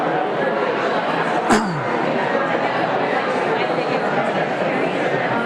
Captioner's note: audience conversing